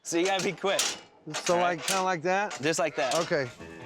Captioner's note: clanging sound